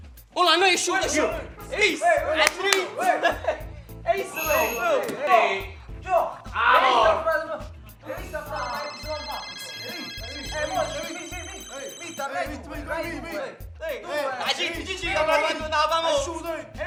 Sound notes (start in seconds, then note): 4.3 doorbell rings; 8.1 phones ringing; 12.3 talking on the phone